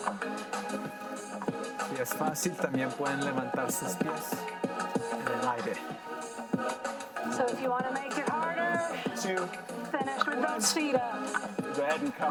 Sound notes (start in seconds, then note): 2.0 in foreign language; 10.1 music drowns out voice